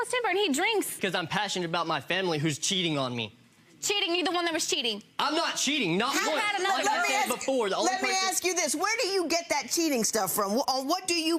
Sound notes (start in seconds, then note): 6.9 shouting over each other